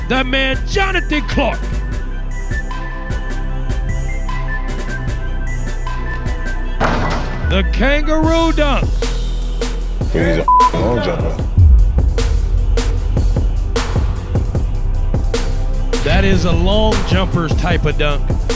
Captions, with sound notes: that man, Jonathan Clark. (ball dunking) The kangaroo dunk. - That is a (beep) long jumper. - That is a long jumper's type of dunk.